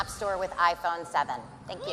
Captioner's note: cheers and applause